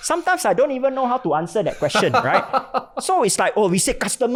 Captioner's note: laughing